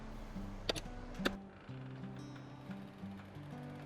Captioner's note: door opens